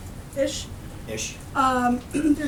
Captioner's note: laughter